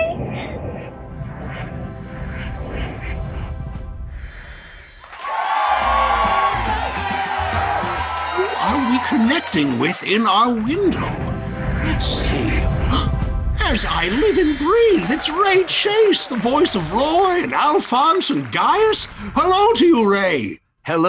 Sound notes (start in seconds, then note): 0.0 mysterious music; 5.0 audience cheering